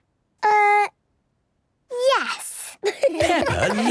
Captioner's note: laughter